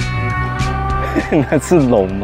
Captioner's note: wonderful laugh